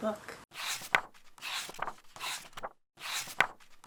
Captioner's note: pages turning